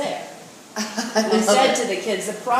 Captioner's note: laughs